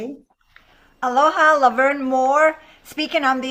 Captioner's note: speaks in a foreign language